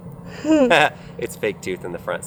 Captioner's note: laughs